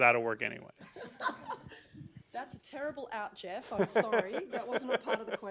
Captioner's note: laughter